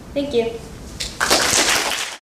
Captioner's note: applause